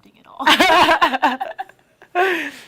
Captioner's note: laughter